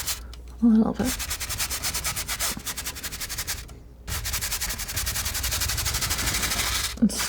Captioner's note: scratching